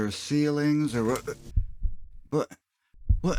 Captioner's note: crunch; heartbeats